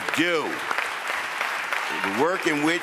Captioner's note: audience applauds